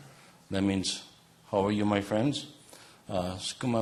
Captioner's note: speaking in native language